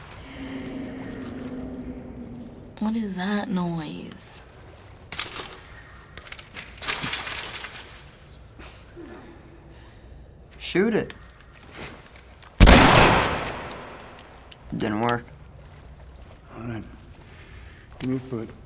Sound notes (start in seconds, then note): 6.2 gate rattles; 12.5 reloading; 12.6 gun blast